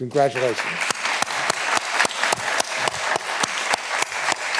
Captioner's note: all applauding